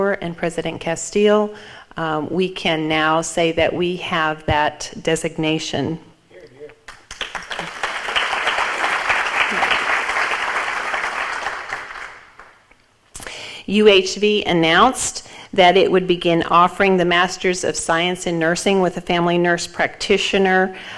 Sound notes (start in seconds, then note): 6.8 audience applauds